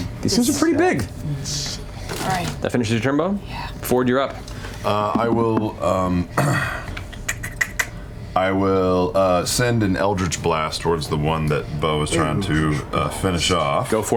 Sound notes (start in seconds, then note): 6.3 clears throat; 7.4 clicks tongue